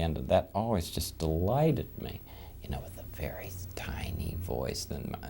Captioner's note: whispering